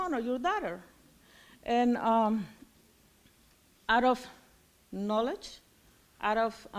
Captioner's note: none